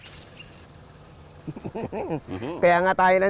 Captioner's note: both chuckling